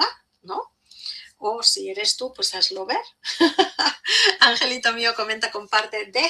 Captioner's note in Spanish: risas